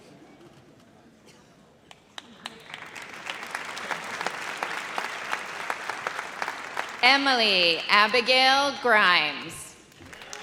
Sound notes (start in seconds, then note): 2.2 audience applauds